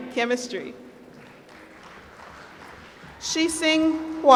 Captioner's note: applause